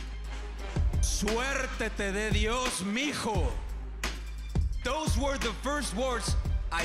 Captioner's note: spanish language